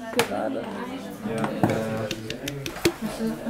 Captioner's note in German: Stimmengewirr